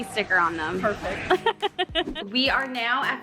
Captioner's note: laughing